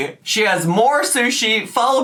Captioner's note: yells; normal voice